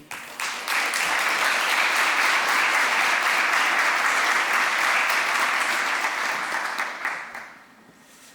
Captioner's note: applause